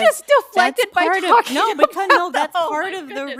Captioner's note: laughing